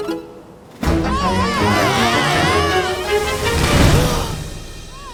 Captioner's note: villains yell; wind rushes; villains yelling